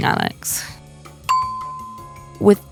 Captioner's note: bell dings